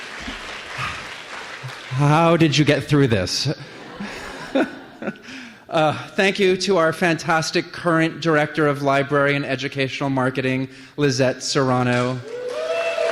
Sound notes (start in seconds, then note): 3.5 laughter